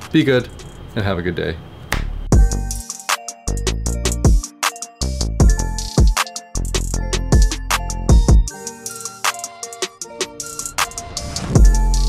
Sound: snap

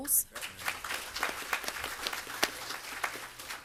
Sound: applause

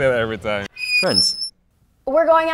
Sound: creaking sign

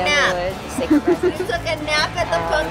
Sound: laughing

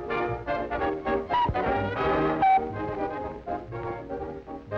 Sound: whistle blows

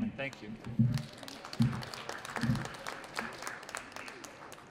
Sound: audience applauds

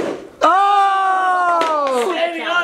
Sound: cheering

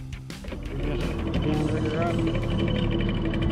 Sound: winch motor running

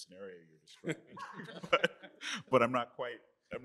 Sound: laughter

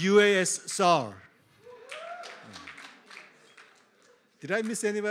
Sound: applause

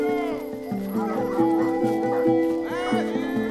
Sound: dogs howling, barking

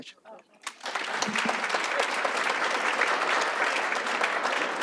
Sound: audience applauds

